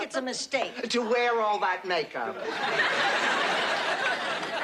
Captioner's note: laughs